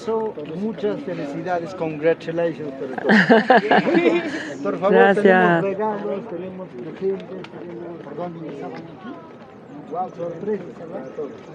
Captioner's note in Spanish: risas